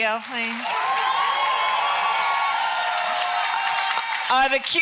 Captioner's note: applause